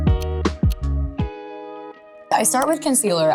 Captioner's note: gentle upbeat music; timer ticking